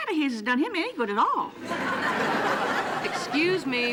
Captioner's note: audience laughing